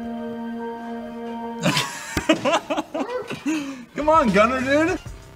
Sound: all three laugh

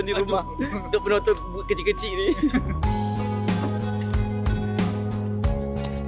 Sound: laugh

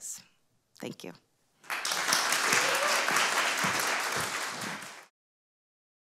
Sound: applause

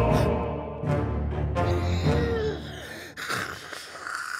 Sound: panting

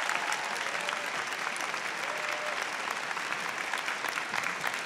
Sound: applause

